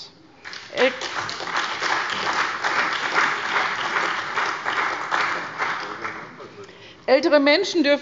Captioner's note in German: Beifall bei der CDU und dem BÜNDNIS 90/DIE GRÜNEN